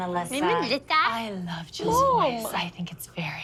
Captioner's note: mocking; sultry